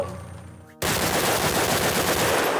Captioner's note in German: Automatische Schüsse